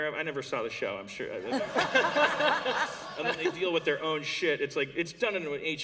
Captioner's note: laughter